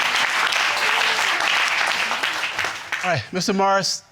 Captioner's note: audience applauding